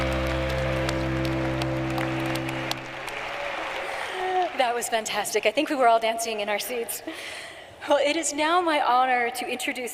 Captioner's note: cheering and applause